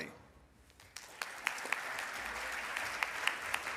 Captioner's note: applause